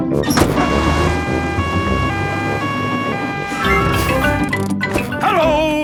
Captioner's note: siren wailing